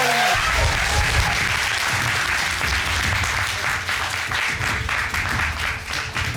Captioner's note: applause